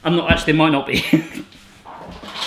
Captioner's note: laughing